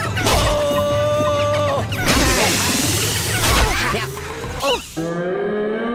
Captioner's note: groan